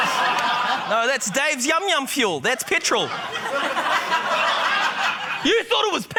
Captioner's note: laughter; laughter